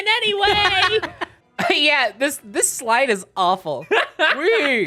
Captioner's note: laughing